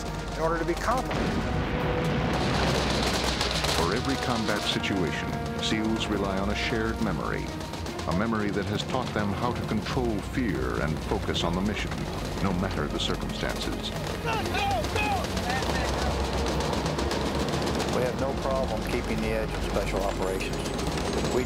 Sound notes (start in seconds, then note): 0.9 explosion and gun fires; 4.2 voiceover